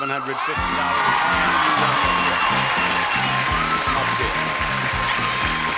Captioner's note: audience applauding; upbeat music